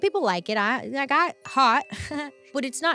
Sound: bell rings; giggles

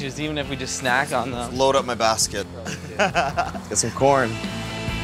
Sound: laugh

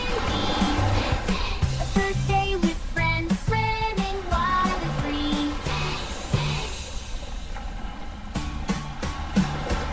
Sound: splash-Splash!

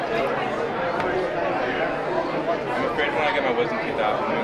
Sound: group chattering

